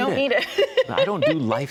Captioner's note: laughs